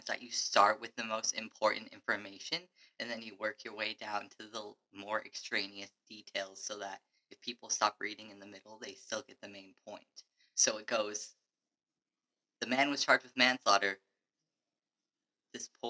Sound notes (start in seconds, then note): none